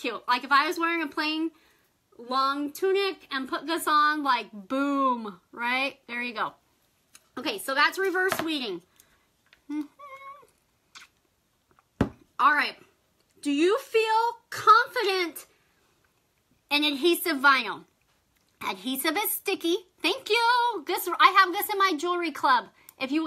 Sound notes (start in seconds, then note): 9.7 hums